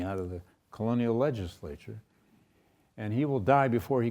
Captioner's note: none